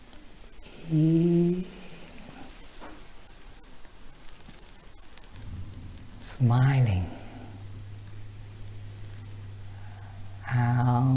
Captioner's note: breathe